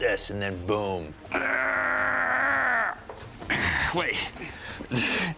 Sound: grunting

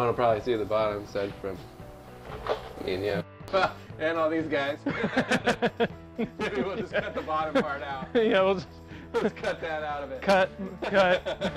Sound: laughs

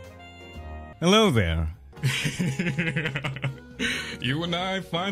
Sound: chaotic laughter

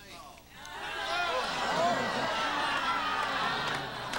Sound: audience gasp

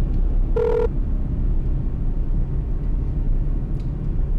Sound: phone rings

